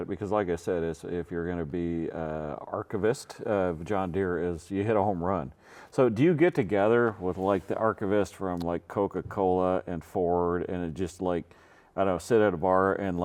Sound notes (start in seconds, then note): none